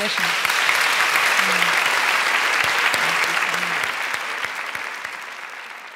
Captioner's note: applause